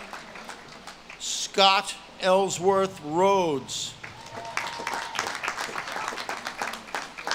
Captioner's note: audience claps and cheers